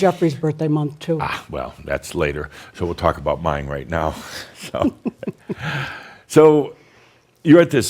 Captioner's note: giggles